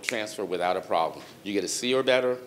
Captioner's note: fingers snapping